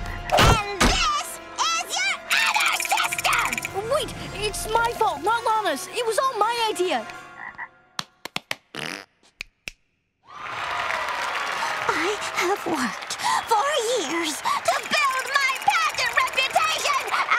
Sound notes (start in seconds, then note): 10.2 cheering